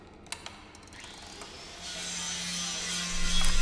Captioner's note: whirring